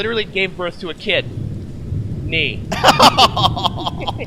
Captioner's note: laugh